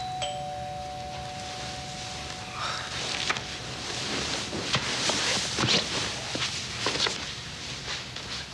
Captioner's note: doorbell rings